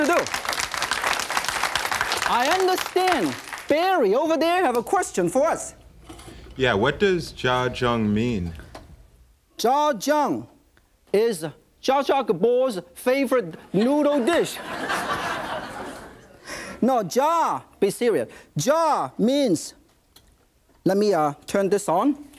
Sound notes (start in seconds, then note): 0.0 audience claps; 14.1 audience laughs